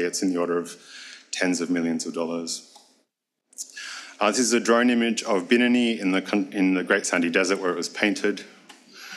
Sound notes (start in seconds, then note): 5.1 speaks foreign language